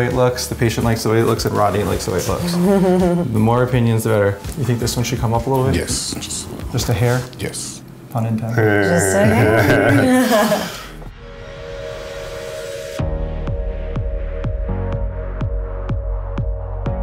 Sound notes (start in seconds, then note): 8.8 laughing; 12.3 instrumental music